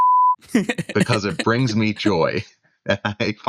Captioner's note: laughter